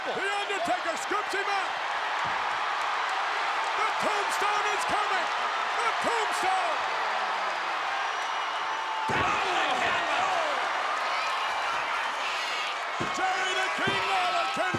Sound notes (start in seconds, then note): 2.8 applause